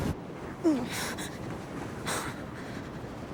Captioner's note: whimpering